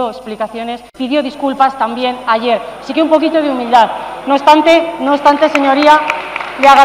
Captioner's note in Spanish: Rumores.-Aplausos